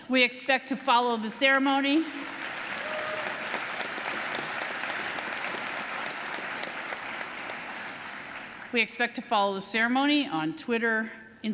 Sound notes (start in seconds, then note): 2.2 audience applauding